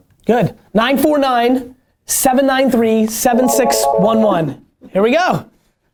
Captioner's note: phone rings